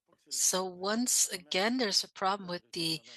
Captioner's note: speaking French